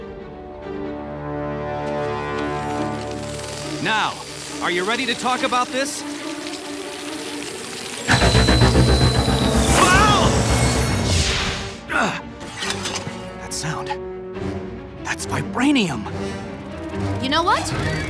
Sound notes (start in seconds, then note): 7.5 sound waves